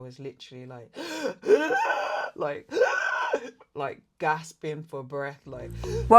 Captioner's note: gasps